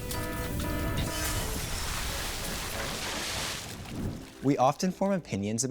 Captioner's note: glass explosion